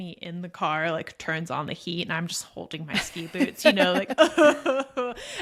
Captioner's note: sobs